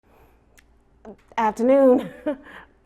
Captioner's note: chuckles